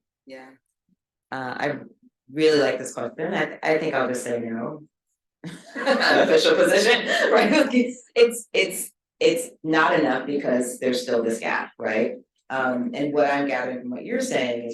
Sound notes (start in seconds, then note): 5.5 all chuckling